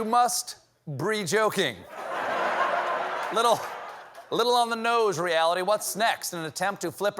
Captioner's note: laughter